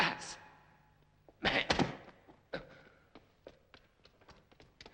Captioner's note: body collapsing